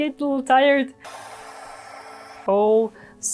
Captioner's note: blower whooshing